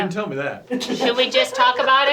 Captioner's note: laughs